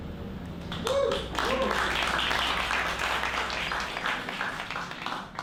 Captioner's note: cheers and clapping